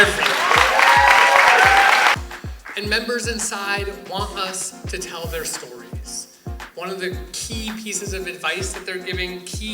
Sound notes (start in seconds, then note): 0.0 cheers and applause